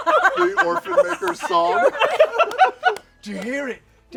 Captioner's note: laughter